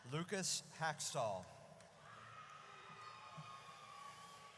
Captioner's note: audience cheers